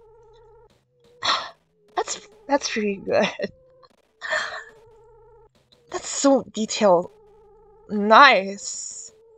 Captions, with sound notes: *exhale* *exhale* That's, that's pretty good. That's, that's pretty good. *inhale* *inhale* That's so detailed... That's so detailed... Nice! Nice!